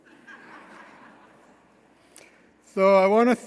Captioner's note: audience laughing